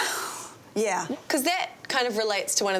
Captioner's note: sighs